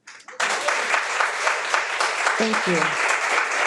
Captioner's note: all applauding